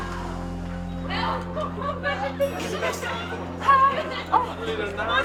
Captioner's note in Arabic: دردشة الأشخاص